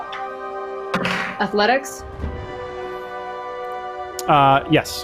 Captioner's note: dice clatters